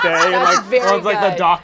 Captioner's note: all laugh